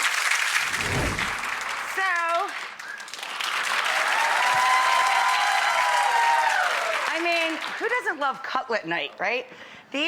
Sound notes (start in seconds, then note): 3.8 audience cheering